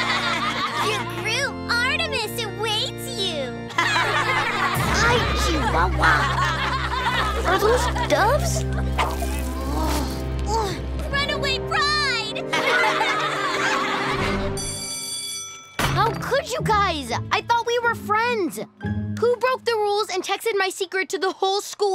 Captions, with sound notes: Your groom Artemis awaits you. [laughing] Ay, chihuahua! Are those doves? [frustrated groaning] Runaway bride! [laughing] [bell ringing] How could you guys?! I thought we were friends! Who broke the rules and texted my secret to the whole school?